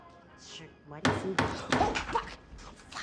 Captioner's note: banging